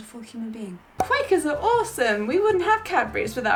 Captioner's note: air popping